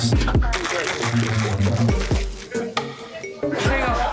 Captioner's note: ice shaking